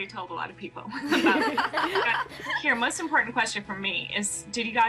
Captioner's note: all laugh